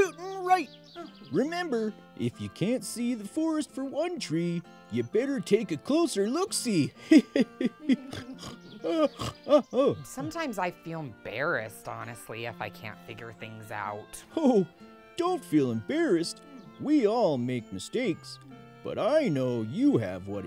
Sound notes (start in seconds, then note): 6.8 laughs; 8.0 yawns; 8.1 snorts